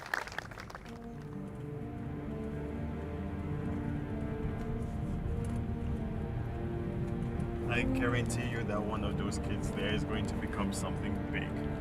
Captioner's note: applause